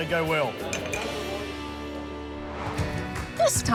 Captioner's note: glasses clink